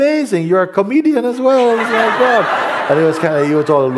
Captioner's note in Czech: smích